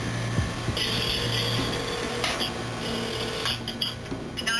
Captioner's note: phone keys beeping; phone line ringing